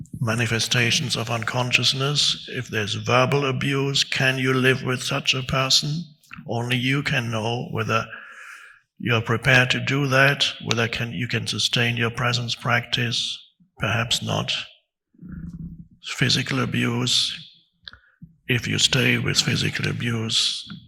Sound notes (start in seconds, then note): none